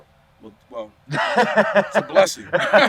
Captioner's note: laughing